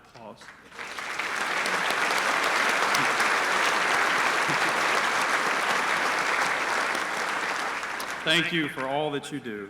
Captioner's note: applause